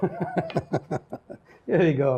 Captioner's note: laughs